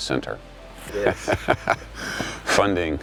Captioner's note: chuckling